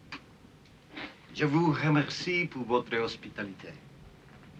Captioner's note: speaking french